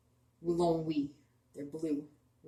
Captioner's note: speaking Abenaki